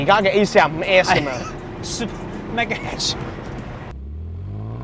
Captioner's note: laughs